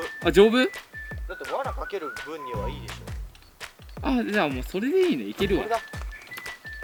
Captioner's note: laughs